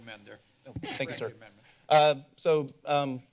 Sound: mic squeaking

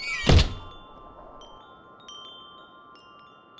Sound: door opens and shuts; wind chimes ring

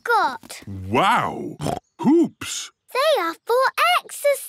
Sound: snorts

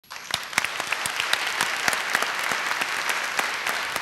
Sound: applause

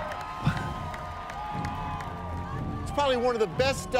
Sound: cheers and applause

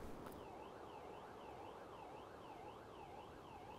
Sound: distant siren

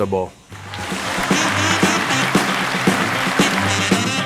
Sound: applause

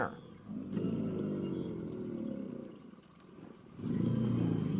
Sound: alligator bellowing

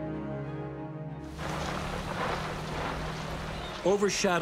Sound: tank rumbling

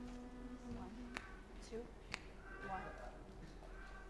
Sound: piano playing note; snapping

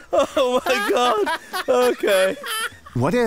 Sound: laughing

